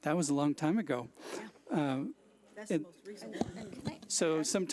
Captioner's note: overlapping chattering